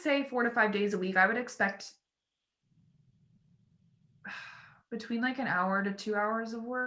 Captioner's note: sighs